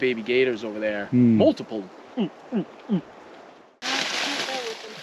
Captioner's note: imitating gator